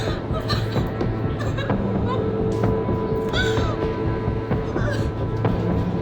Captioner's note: crying